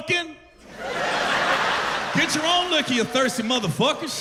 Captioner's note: laughter